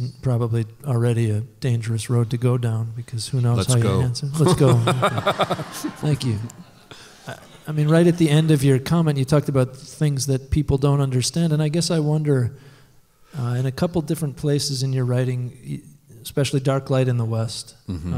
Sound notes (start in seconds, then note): 4.4 laughter